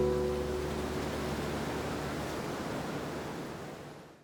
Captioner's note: waves crashing